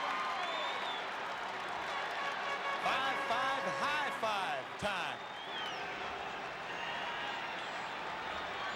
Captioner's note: applause